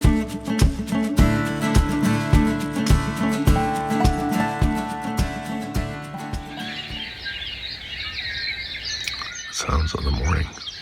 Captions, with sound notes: [birds chirping] Sounds of the morning.